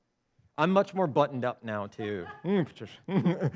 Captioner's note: chuckles